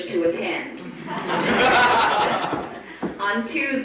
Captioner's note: audience laughs